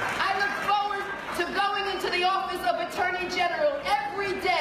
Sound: applause

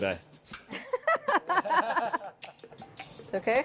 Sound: laughing

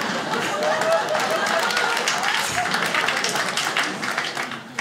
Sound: applause

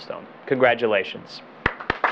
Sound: applause

